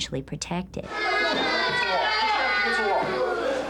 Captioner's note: yelling